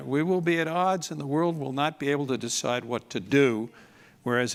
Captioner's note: none